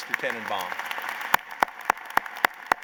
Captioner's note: applause